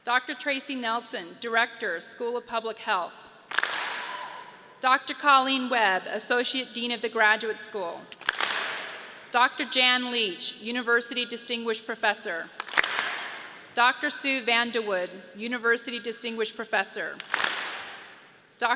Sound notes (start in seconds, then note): 3.4 audience claps and cheers; 8.1 audience claps; 12.5 audience claps; 17.2 audience claps